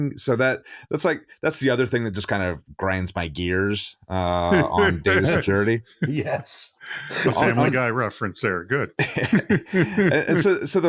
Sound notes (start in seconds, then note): 4.5 laughs; 8.9 all laughing